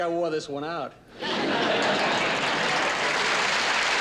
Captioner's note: laughter and applause